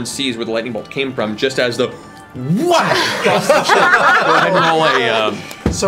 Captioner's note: whack